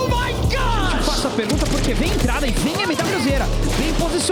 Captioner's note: foreign language